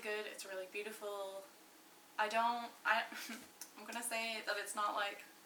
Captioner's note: laughs to myself